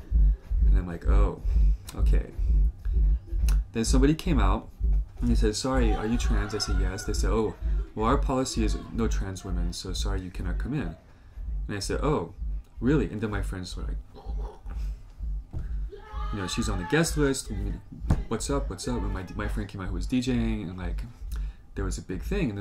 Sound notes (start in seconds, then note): 15.6 uproar